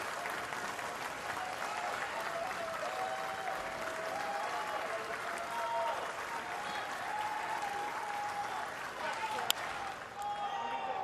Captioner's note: applause